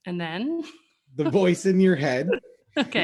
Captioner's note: laughs